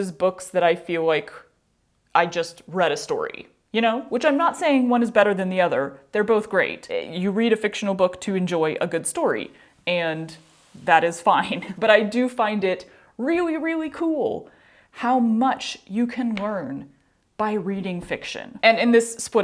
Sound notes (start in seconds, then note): none